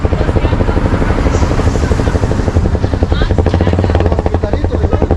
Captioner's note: people speaking Spanish